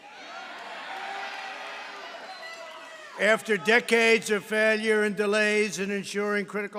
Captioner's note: applause